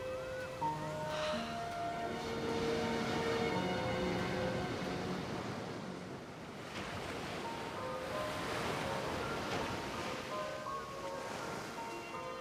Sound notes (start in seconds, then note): 1.1 sighs; 7.5 melancholic music; 7.5 waves crashing